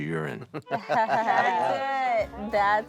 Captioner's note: Willie laughing